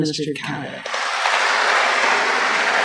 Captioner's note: applause